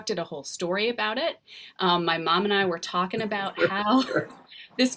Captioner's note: laughing